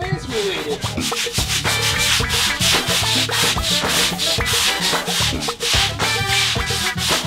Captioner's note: funky music; vigorous scrubbing noises